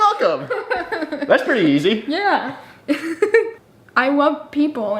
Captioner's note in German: lacht; lacht